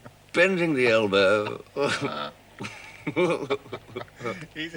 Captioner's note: both chuckling